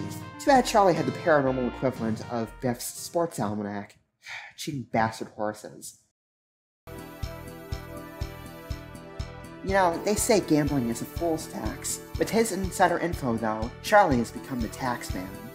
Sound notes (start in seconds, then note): 4.2 sigh